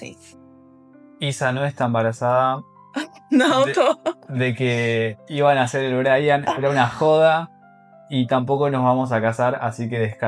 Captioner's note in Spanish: risas